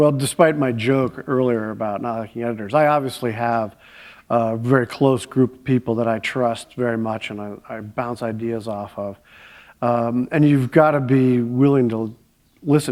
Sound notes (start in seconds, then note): none